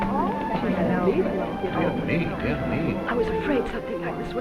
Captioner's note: crowd chattering